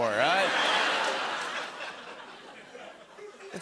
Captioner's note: laughter